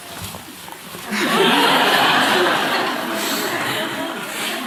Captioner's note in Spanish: Risas